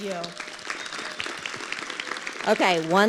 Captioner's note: audience clapping